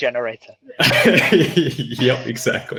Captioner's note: laughing